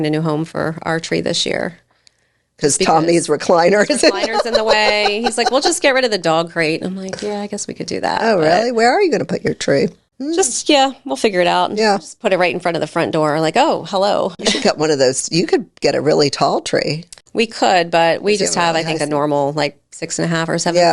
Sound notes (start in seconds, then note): 3.7 laughs